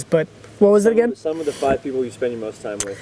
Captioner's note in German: Voice-over